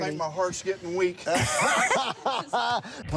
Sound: laughs

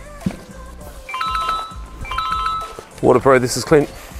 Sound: cell phone ringing

